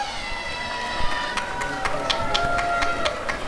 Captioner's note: applause and cheering